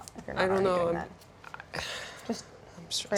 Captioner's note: sighs